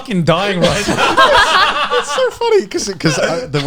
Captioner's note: laughs